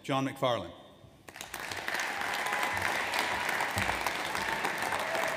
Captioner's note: audience applauds